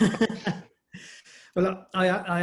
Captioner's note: laughter